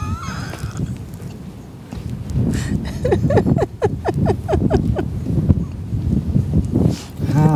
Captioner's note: laughs